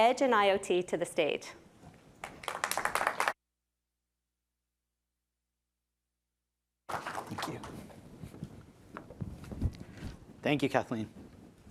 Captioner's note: applause